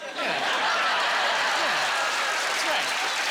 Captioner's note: laughing